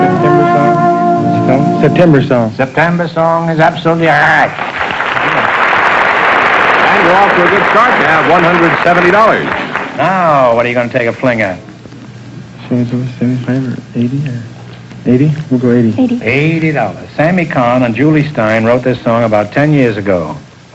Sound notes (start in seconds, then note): 4.3 applause